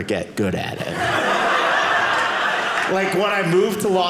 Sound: audience laughing

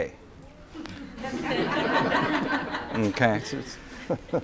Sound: laughter

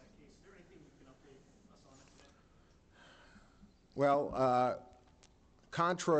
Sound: sigh

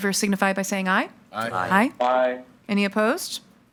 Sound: in Unison

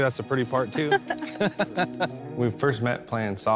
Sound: laughing

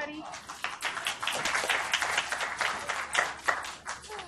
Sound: applause

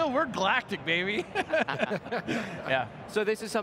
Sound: laughing

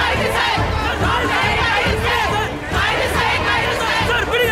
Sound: babble of voices

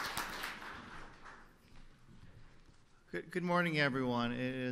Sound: applause

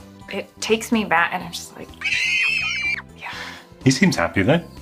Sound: screams

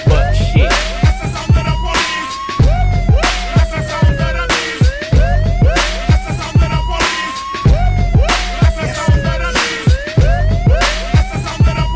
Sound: woop, woop

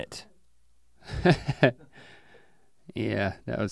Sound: chuckles

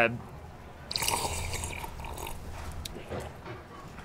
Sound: slurps

